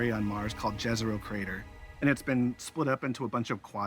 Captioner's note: none